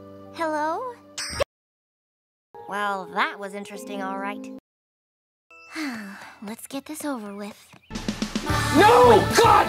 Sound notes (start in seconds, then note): 5.7 sigh